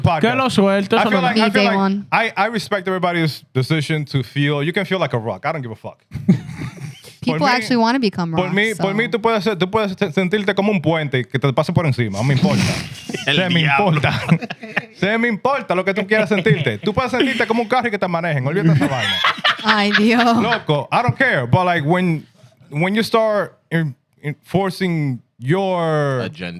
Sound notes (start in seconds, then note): 8.9 laughter; 8.9 non-english Speech